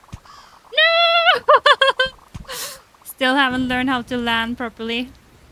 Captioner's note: laughs